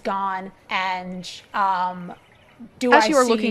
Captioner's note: chuckles